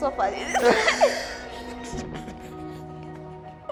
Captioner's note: laughs